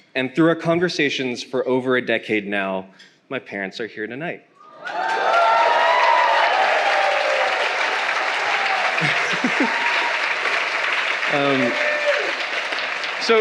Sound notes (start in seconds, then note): 4.7 attendee cheering; 4.8 attendee clapping hands; 9.0 laughing